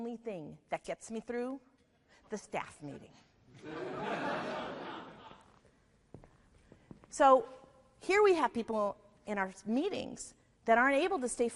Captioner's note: audience Laughing